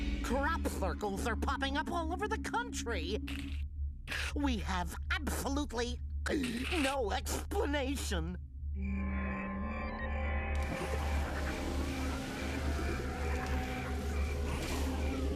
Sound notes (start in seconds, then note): 6.3 gulps; 10.8 crickets chirping; 11.9 machine whirring